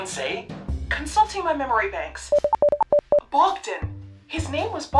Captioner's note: computer beeps